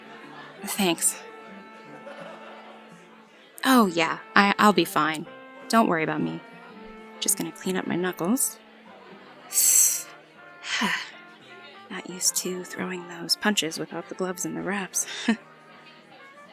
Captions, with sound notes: Thanks. Oh yeah, I’ll be fine - don’t worry about me. Just gonna clean up my knuckles. [hisses air in through teeth] Not used to throwing those punches without the gloves and wraps. [soft laugh]